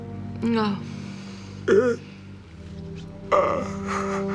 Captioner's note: groaning